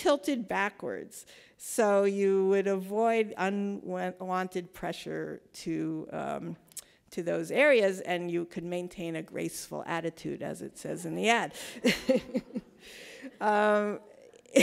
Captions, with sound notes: backwards so you would avoid unwanted pressure to those areas, and you could maintain a graceful attitude as it says in the ad (laughs).